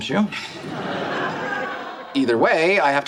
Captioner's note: audience laughs